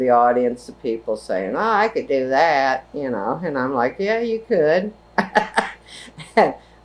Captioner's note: laughs